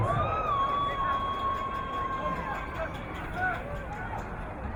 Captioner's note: crowd cheering